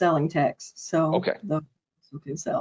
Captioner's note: audio distortion